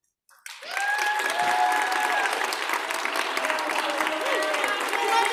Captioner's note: audience clapping and cheering